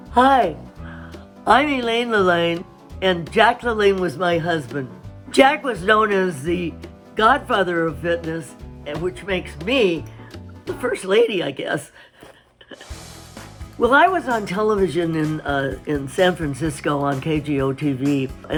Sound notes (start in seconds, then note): 12.6 chuckles